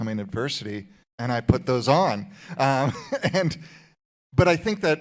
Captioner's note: chuckles